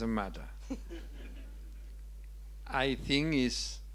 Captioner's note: audience chuckling